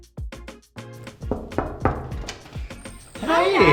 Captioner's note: door knocking